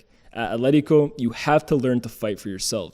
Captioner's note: none